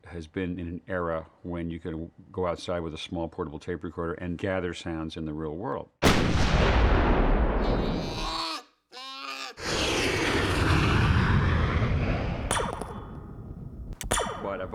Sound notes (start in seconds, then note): 6.0 EXPLOSlON; 7.7 BEAR GROANlNG; 9.6 JET ENGlNES WHOOSHlNG; 12.4 sound of laser gun firing